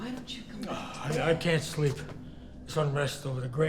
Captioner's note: sighs